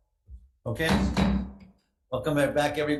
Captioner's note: gavel slamming